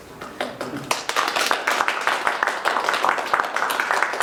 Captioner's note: applause